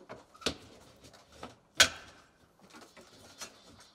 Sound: roof creaking

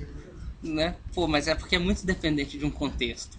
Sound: laughs

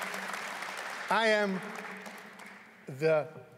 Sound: applause

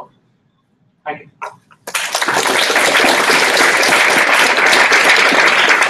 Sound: applause

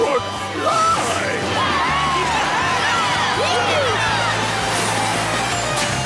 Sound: cheering

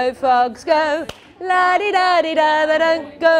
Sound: clap

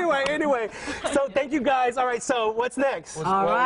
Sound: laughter

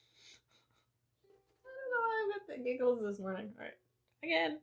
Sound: quiet giggle

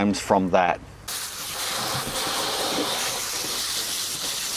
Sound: water spraying

